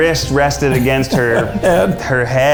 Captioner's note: laughs